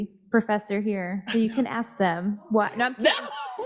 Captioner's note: laughing